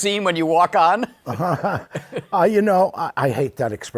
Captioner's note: laughs